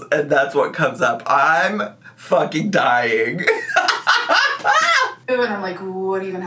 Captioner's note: cackles